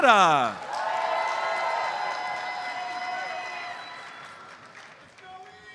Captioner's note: audience cheers and applauds